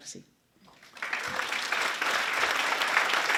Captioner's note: applause